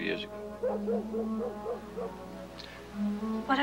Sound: tense music continues; dog barking

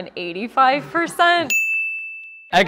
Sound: ding

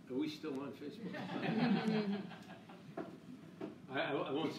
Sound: laughing

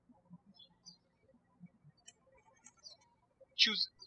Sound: birds chirping

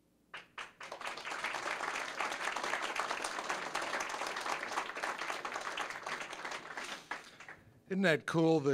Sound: applause

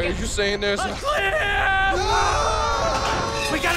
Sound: screaming

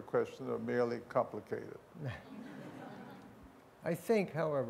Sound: laughter

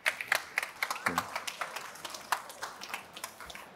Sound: applause

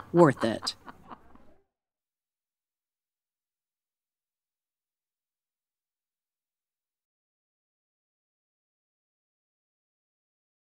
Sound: silence

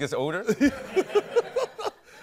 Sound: laughter

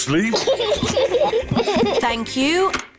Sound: both laugh

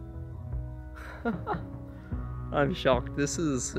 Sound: laughs

